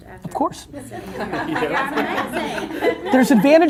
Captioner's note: laughing